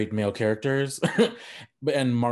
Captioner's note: laughing